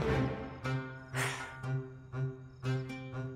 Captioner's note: Sighs